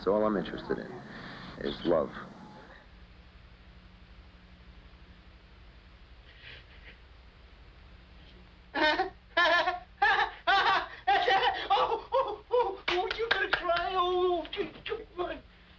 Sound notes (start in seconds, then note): 9.3 laughing